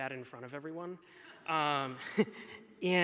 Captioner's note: person laughing; laughs